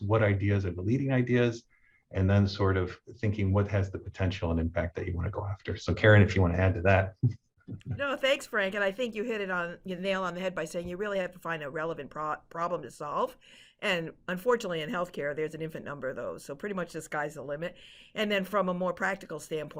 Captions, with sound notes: what ideas and the leading ideas, and then sort of thinking what has the potential and impact that you want to go after. So Karen, if you want to add to that. (chuckles) - No, thanks, Frank. And I think you hit it on your nail on the head by saying you really have to find a relevant problem to solve. And unfortunately in healthcare, there's an infant number though. So pretty much the sky's the limit. And then from a more practical standpoint,